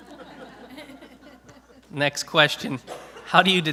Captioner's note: laughter